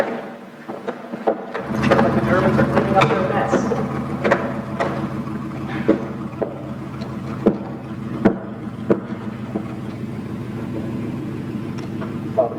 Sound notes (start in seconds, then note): 3.0 truck motor sounds